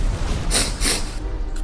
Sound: sniff

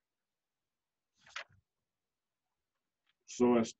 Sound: page flipping

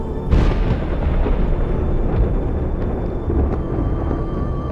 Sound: thunder rumbling

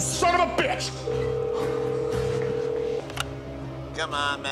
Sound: line trilling

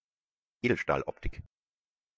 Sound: fast Pronunciation

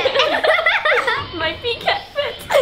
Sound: laughing

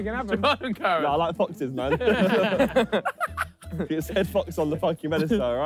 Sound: all laughing

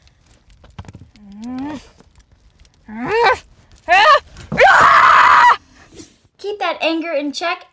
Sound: angry growling; screaming

